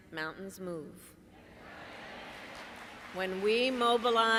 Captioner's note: applause